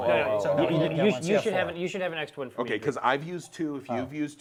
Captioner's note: all chattering